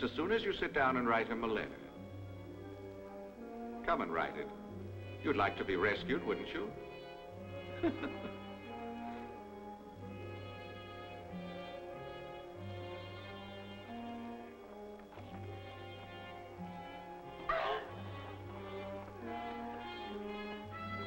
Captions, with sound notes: Just as soon as you sit down and write him a letter. Come and write it, you'd like to be rescued, wouldn't you? (children grunting)